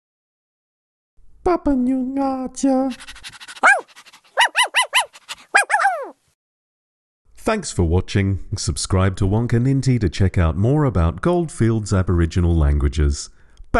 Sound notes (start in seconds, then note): 2.8 dog barking and panting